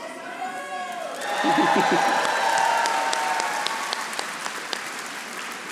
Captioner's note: audience applauding